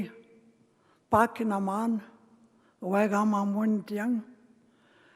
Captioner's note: speaking Indigenous language